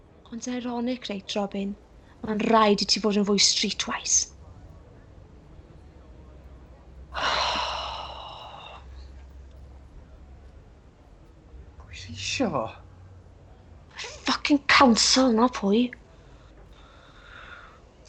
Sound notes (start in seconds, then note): 7.1 he sighs heavily